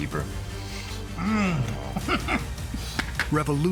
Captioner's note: chuckling